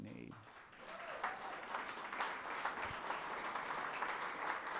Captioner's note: people applauding